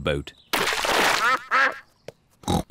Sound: ducks quack; snorts

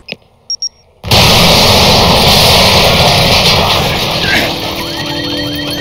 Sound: bomb exploding; car alarm ringing

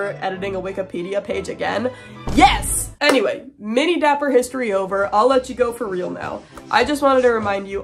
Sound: boom

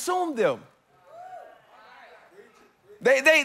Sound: congregants affirming

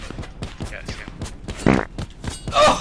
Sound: fart; laughs

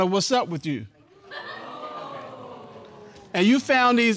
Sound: audience exclaiming

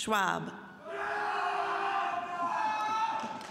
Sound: loud cheering by two people

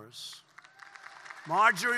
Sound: applause

